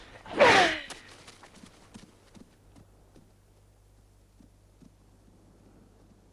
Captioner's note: Hundra grunts; sword slices